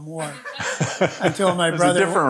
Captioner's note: audience laughing